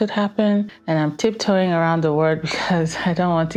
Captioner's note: laughing